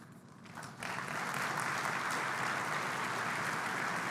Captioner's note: applause